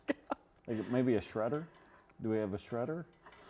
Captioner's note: laughs